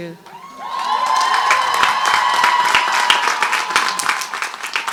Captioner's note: crowd applauds